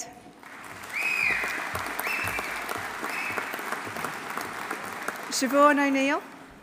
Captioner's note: audience applauding; audience cheering